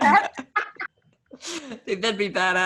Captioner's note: laughs